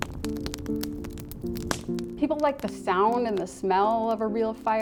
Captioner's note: fire rippling